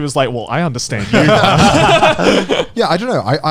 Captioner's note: all laughing